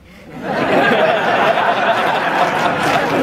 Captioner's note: laughter